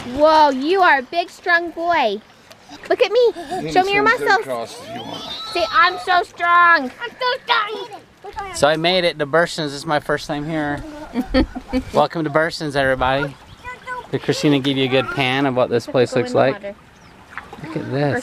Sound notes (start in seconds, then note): 4.8 screeches; 10.8 laughs